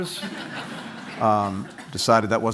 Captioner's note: laughter